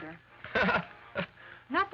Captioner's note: laughs